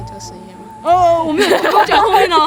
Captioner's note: shivering